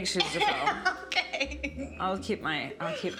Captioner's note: laughs